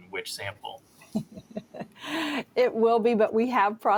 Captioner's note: laughs